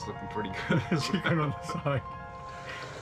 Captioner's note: man laughing